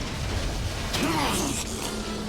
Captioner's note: huge explosion